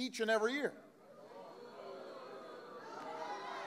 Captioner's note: crowd boos